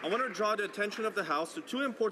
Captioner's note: speaking Alternate Language